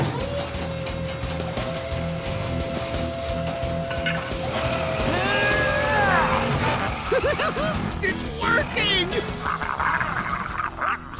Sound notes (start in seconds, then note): 4.6 grunting; 6.8 laughing